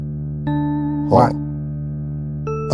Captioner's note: confused noise